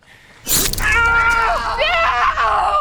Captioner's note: cries out